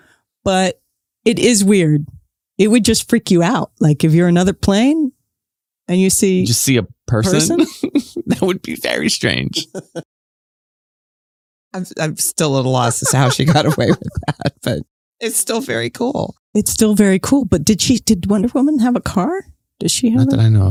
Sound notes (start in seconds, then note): 7.3 chuckles; 12.8 guffaw